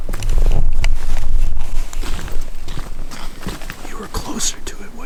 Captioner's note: footsteps pattering